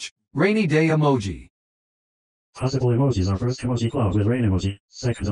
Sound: voiceover speaking

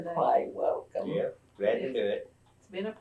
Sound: laughs

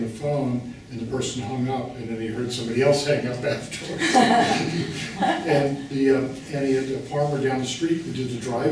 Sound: laughing

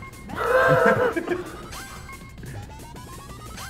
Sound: laugh

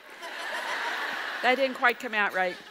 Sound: audience laughs

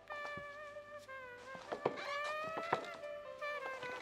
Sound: sounds of footsteps. A door opens

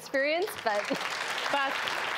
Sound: audience applauds

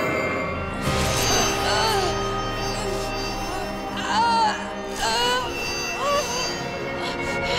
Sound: grunting

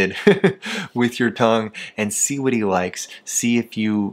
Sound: chuckles

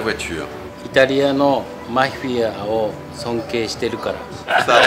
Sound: Speaking Japanese

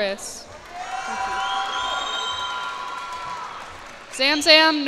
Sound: cheers and applause

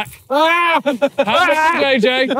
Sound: yelling

